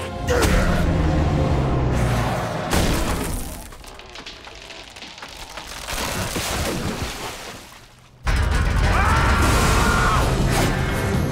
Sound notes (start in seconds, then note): 2.2 thudding; 8.8 screaming